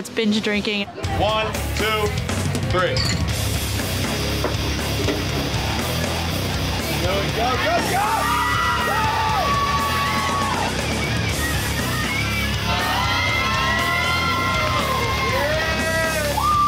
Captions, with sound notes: - One, two, three. (dramatic music) Go, go, go! (crowd cheering)